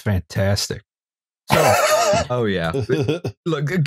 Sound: laughter

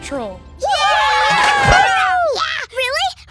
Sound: cheering

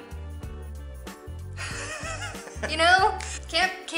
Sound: laughter

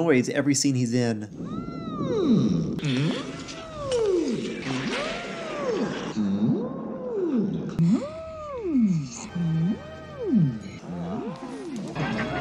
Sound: Clips of the Chamberlain’s distinctive whimper

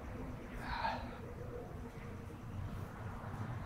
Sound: sighing

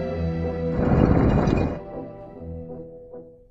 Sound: concrete scraping.mp3

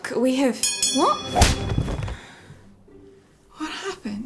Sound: bell ring; punch

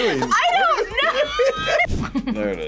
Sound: both laugh

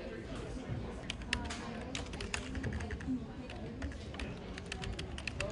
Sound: keyboard clicking

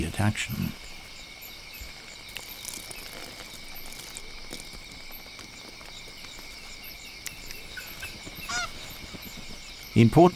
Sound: bat screeches, urinating

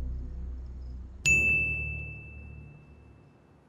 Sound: dinging; suspenseful music

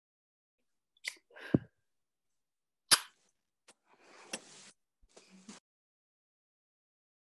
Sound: kissing noises

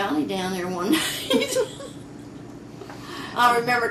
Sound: laughter

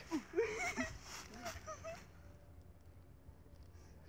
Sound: giggling

